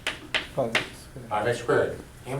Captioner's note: voiceover